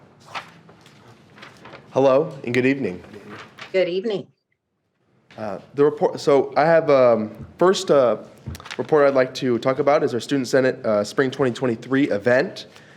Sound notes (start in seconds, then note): none